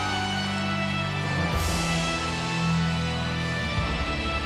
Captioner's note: audience cheers